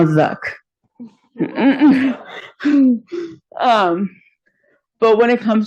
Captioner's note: laughter